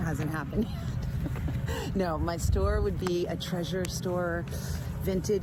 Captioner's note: chuckles